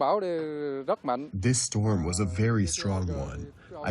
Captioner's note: through translator